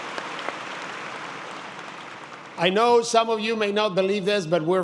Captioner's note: applause